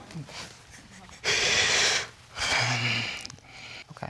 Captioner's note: all laughing; breathing deeply